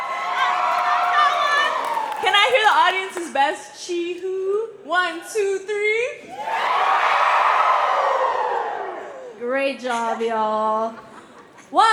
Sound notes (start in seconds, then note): 6.2 crowd chee-hoo-ing; 10.8 laughter